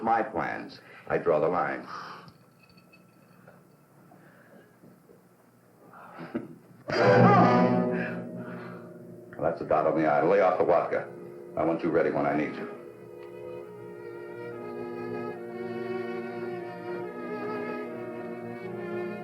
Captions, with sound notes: But when it interferes with my plans, I draw the line. [gasp] [chuckles] [smack] [shout] That's a dot on the I. Lay off the vodka. I want you ready when I need you.